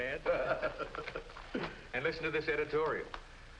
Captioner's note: all laughing